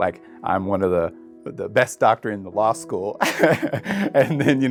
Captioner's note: laughs